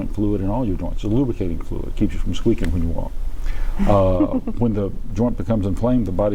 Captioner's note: chuckle